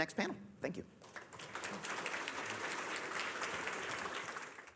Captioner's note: applause